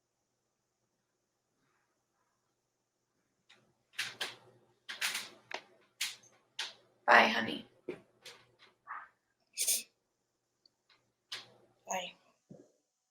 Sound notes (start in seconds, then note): none